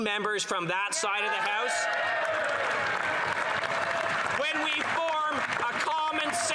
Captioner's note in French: voix de l'interprète